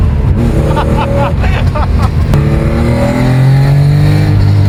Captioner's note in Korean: 웃음